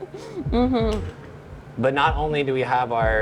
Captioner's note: hums agreeing